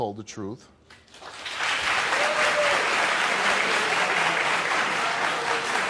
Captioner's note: audience applauding